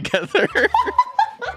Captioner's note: both laughing